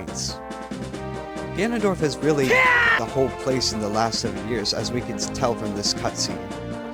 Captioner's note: Link Scream